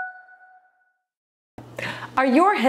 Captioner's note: bell dings